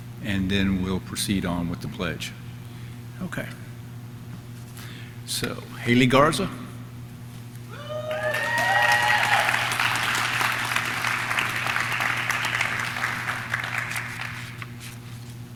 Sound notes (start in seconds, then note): 7.7 audience cheering; 7.9 audience clapping